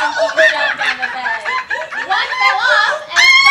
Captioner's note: monkey noises